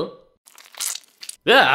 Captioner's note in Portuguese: Som úmido e viscoso